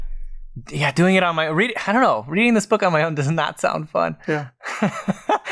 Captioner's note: laughs